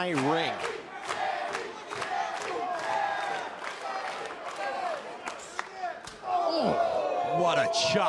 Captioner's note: crowd cheering